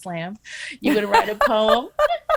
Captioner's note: laughing